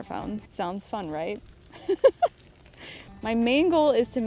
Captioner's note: laughs